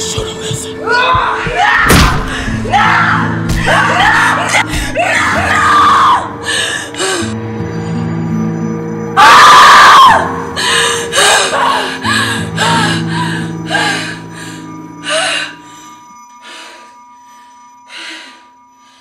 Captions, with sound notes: No, No, No...Nooo (screams)